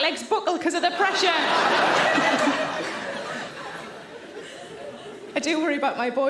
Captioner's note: audience laughing